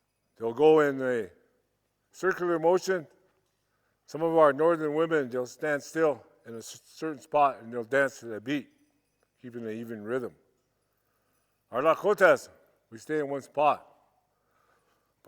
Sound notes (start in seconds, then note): none